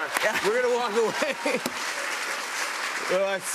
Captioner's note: laughter and applause